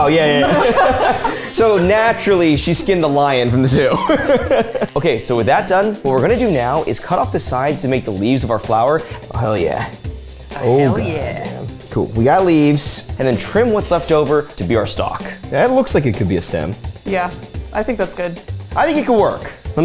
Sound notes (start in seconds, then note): 0.2 all laughing; 3.6 laughing